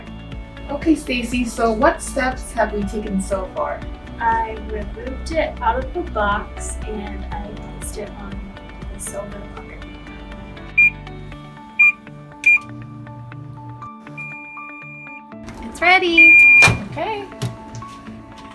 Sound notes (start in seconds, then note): 10.8 buttons beeps; 15.5 microwave beeps